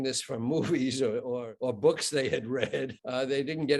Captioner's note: chuckling